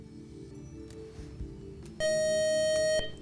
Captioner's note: beeping